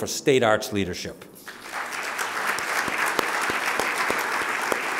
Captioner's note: audience applauding